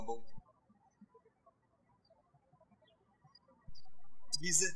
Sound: birds chirping

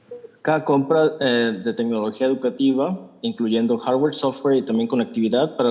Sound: translator speaking in Spanish

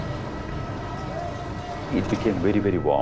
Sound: engines rumbling; voices chattering

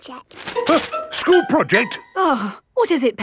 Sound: gasps; sighs

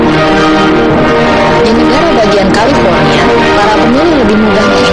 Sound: speaking indonesian

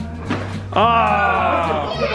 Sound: group yells

